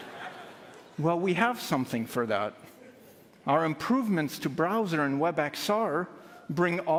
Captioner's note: laughtr